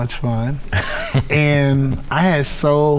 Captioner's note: laughing